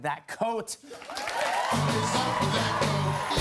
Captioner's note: cheers and applause